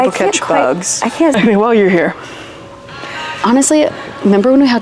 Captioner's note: laughs